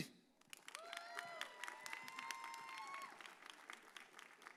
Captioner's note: audience cheers